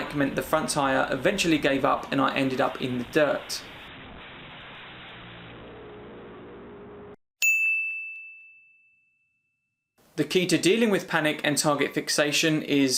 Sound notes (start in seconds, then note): 3.5 bike crashing; 7.4 dinging